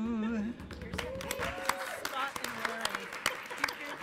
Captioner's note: applause